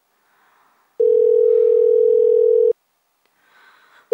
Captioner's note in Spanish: tono de espera